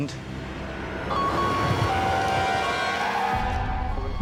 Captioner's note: siren wailing